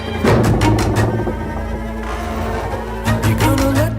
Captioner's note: ominous violin music; wood creaking